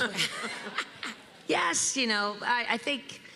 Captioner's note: laughter